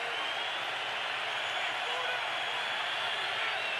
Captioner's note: crowd cheering